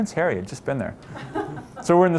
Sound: laughter

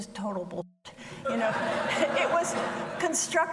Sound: audience laughing

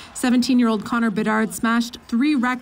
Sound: cheers and Applause

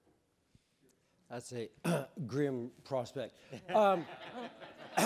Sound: clears throat; audience laughing

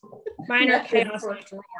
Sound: laughs

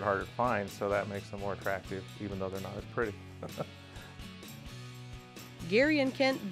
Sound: laughing

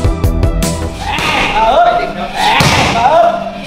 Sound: shouting

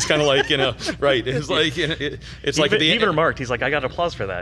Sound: laughs

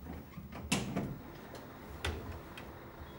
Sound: blinds and door opening

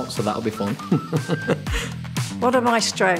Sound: laughs

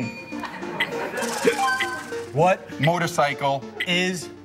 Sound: bell dings

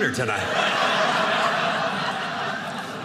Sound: audience laughing

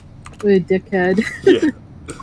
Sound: laughs

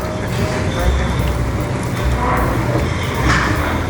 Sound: blows loudly

